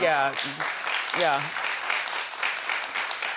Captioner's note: audience applause